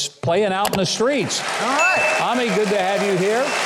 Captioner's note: audience clapping